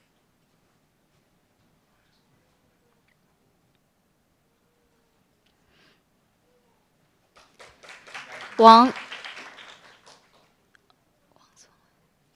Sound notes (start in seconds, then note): 7.3 applauds